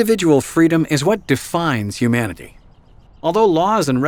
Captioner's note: voiceover